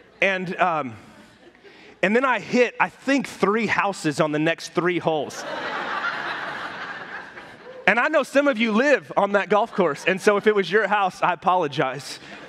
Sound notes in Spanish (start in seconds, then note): 5.1 la congregación se ríe